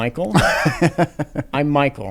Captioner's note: laughs